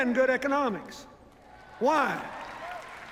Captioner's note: cheers, applause